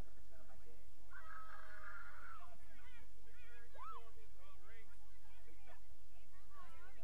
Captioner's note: students cheering and murmuring